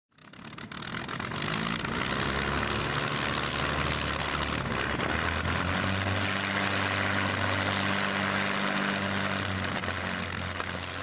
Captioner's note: aircraft engine starting and fading into the distance